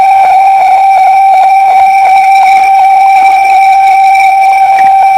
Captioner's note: schreeching sound